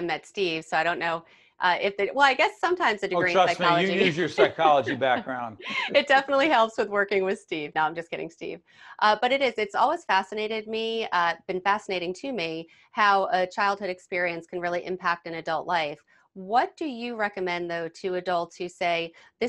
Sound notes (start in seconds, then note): 6.0 laughs